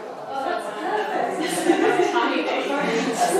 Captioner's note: chuckles